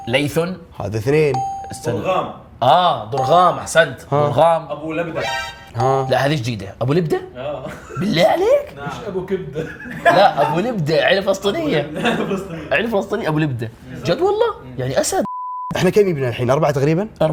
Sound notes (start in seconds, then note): 9.5 laughter